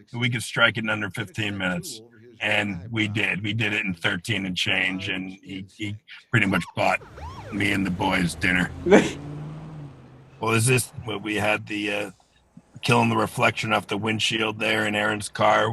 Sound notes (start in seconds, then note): 8.8 chuckles